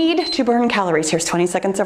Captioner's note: timer beeps